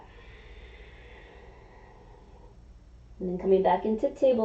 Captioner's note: inhaling; exhaling